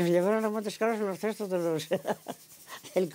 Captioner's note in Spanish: ríe